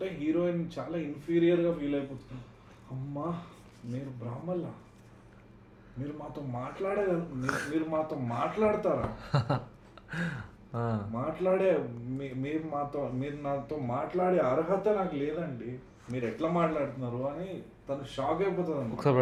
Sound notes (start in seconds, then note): 9.9 laughs